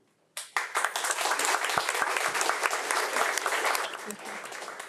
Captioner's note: audience applauds